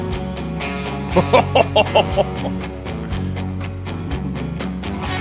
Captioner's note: excitedly exclaims